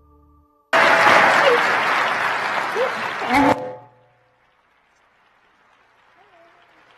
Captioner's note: crowd applauding